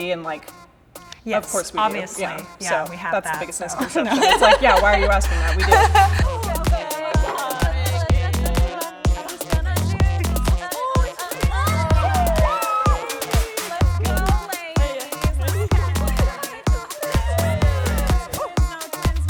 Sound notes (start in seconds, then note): 5.8 laughs; 7.4 techno music; 15.8 techno music continues